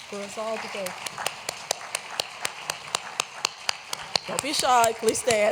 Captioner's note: applause